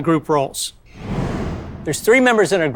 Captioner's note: air whooshing